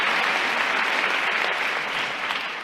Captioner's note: applause